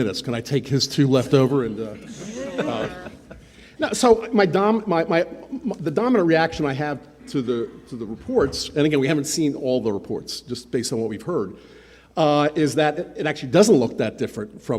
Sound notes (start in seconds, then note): 1.1 attendees laughing